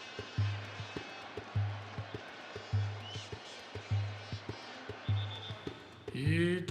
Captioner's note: horns blowing